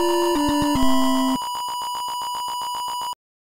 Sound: score increasing

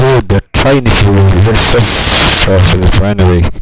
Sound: static noises

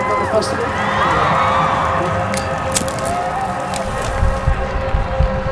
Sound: audience cheering

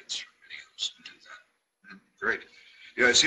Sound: murmurs

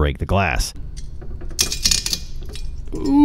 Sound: glass crunching

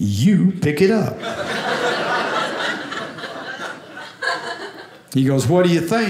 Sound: audience laughing

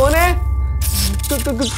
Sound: short circuit

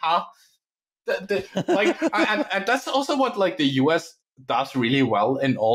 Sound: laughs

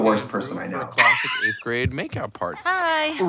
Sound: Katya laughs

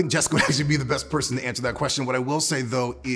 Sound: chuckles

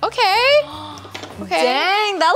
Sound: gasps

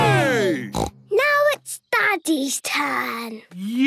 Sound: snort

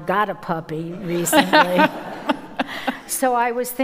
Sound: audience laughing

